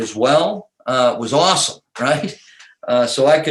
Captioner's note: laughs